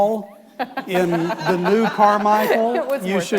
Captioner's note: audience laughing